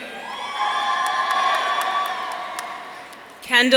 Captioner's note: audience cheering